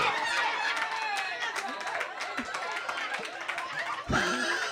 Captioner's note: audience cheering